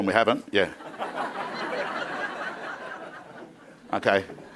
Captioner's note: crowd laughing